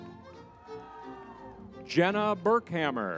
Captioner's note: crowd cheering